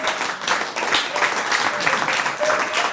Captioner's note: applause